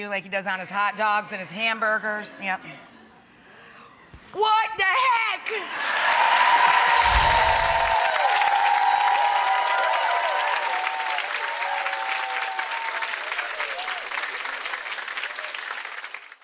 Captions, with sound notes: like he does on his hot dogs and his hamburgers, yeah. What da heck? (audience cheering) (audience applauding) (gentle chiming)